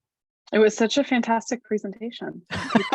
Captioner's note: laughing